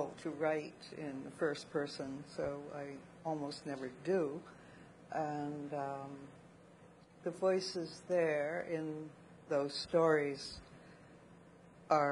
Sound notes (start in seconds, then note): none